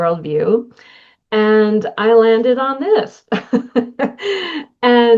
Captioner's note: laughter